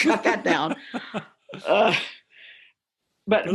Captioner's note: laughter